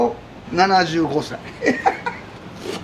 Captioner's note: laughs